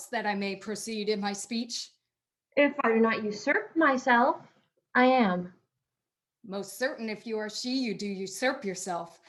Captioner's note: none